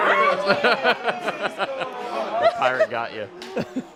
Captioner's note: chuckling